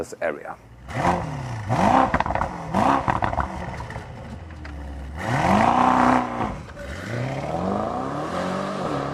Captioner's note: engine revving